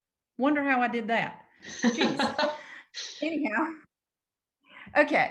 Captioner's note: laughs